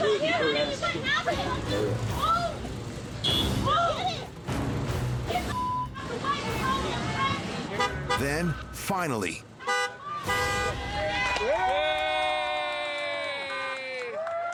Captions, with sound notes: (horn honking) Move! (horn honking) >>Then, finally- (horn honking) >>Get out of the way! (crowd cheers)